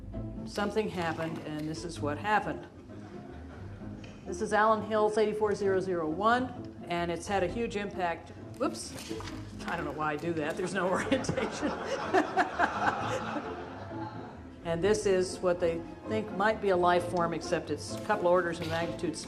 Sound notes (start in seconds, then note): 13.1 all laughing